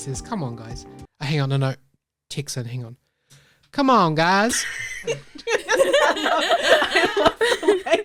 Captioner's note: in Texan accent